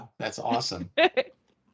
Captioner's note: laughing